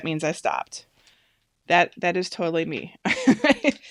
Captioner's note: laughs